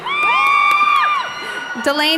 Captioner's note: cheering